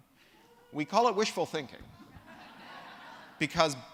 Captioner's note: laughter